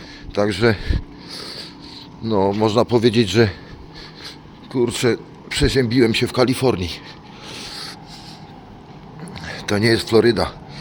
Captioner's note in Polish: parsknięcie